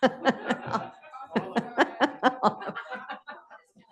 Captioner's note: laughter